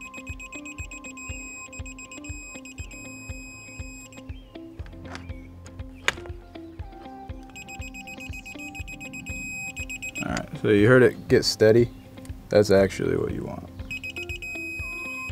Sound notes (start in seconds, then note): 3.9 beeping of digital torque wrench; 13.8 beeping becomes steady